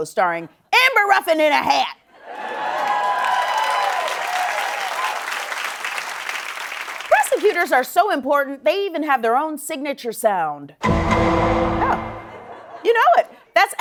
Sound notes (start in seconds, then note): 2.3 cheering and applause; 10.8 "Law & Order" sound effect